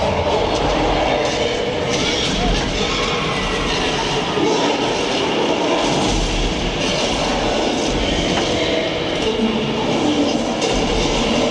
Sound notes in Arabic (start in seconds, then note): 0.0 زئير الغوريلا; 2.3 زئير الديناصورات